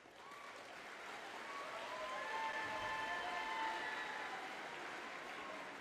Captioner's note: audience cheering and applauding